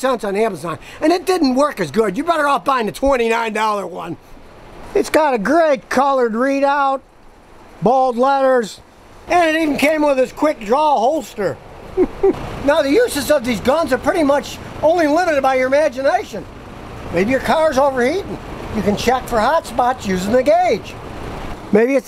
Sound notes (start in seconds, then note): 11.9 laughing